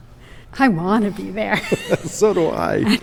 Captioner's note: chuckles